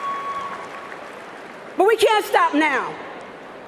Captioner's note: cheering and applause